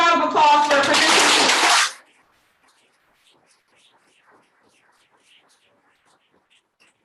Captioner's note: applause